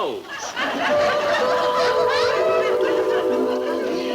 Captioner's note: melodious chimes